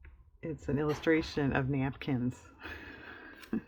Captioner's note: laughs